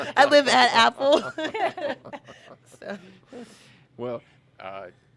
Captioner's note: laughing in unison